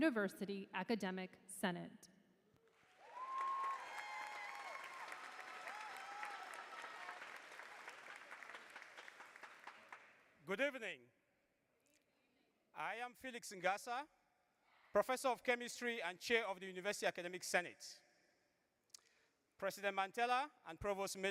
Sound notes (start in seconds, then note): 9.1 applause